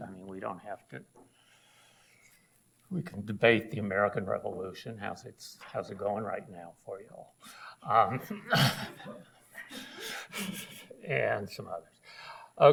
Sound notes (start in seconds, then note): 7.7 audience laughs; 7.7 laughs